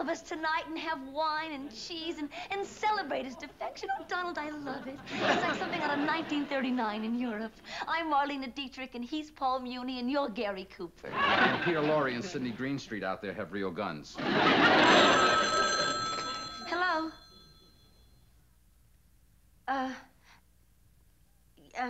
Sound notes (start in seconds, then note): 15.9 phone rings